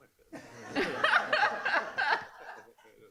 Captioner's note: laughing